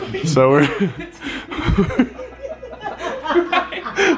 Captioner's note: group laughs